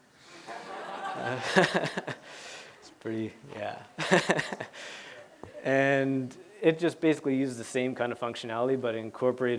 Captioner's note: laughter